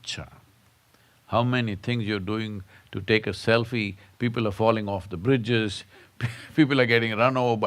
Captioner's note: laughs